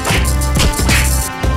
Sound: Royalty free punch SFX

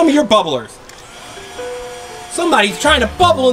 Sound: fan engine humming

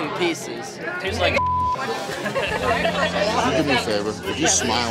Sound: beep; friends laughing

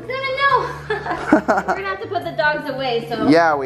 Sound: laughs

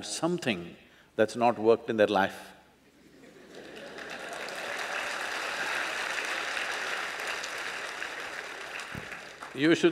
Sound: applause

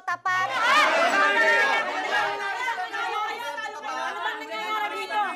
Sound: clamoring

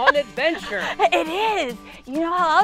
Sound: laughing

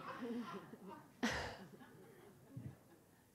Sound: laughter

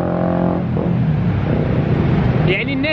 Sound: engine sound

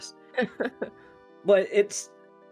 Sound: laughing

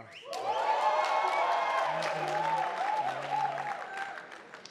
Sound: attendees applauding

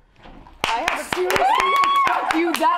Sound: clapping

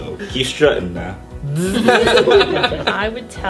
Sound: laughter

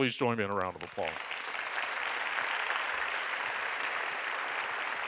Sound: applauding

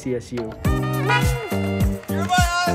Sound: honk

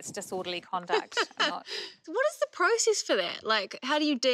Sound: laughs

